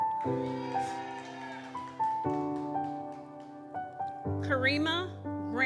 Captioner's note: gentle music continues; audience cheers